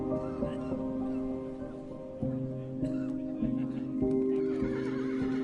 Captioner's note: person coughing; horse neighing